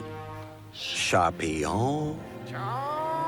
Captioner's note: bird squawks